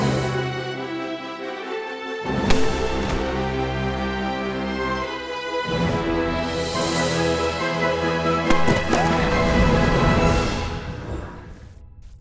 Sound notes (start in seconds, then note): 2.4 gunshot; 8.4 gunshots; 9.2 spaceship engine